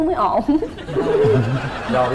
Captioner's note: laughing